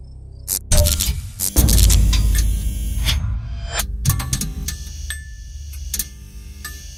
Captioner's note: electricity buzzes; machinery clanks